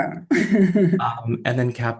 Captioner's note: laughter